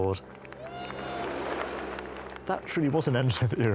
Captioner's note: crowd clapping